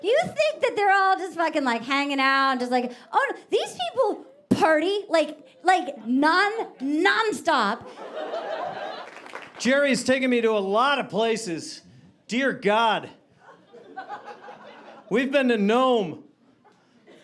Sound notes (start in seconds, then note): 7.8 audience laughing